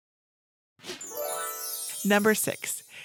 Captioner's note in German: sanft läutende Glocken